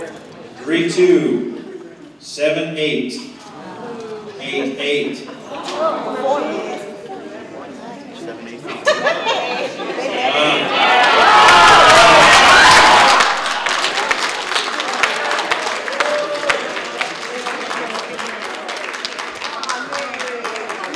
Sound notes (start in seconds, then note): 8.6 laughter; 11.0 applause